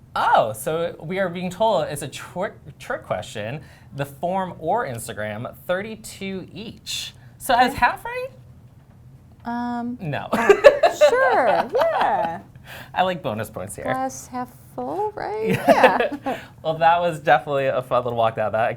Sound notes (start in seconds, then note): 10.3 laughter